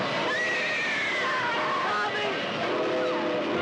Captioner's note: girl Screams